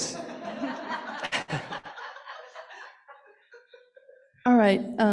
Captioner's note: laughter